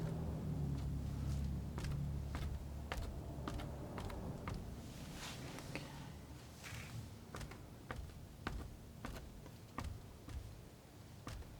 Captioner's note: scratching